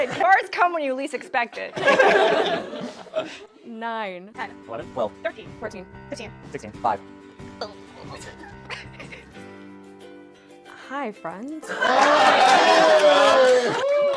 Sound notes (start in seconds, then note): 7.4 belly Noises; 11.7 cheers